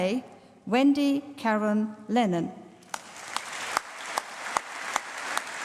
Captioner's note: applause